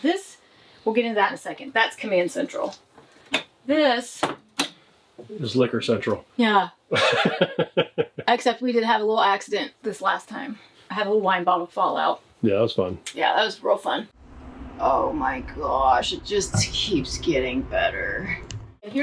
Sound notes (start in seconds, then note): 6.9 laughing